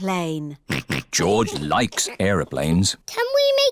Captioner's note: snorts